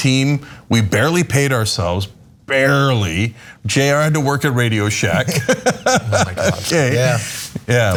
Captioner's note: laugh